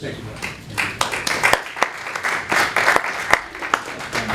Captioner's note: applause